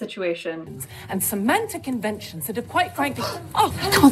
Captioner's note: woman speaking emphatically; everyone gasps in surprise